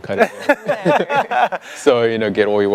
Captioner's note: all laughing